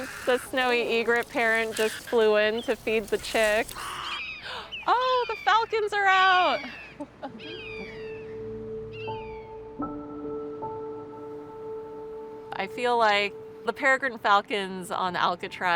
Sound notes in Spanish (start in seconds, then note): 7.3 el graznar de los aves; 9.7 música suave